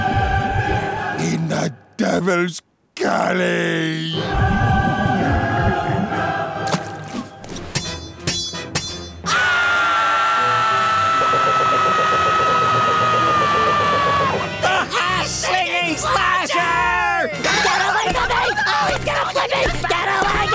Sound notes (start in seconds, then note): 9.2 screaming